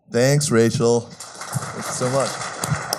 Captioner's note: applause